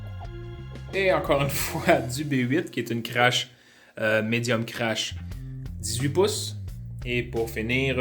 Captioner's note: laughs